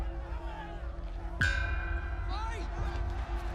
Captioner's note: chime clangs